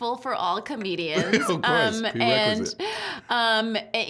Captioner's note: laughing